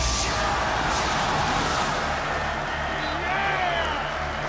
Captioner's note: cheering